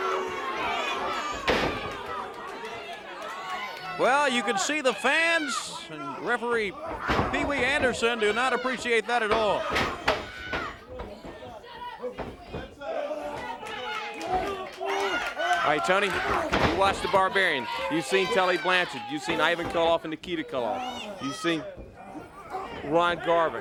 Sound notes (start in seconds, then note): 0.2 crowd chatter; 13.1 crowd chatter; 14.9 crowd cheering